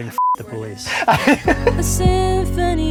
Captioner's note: laughs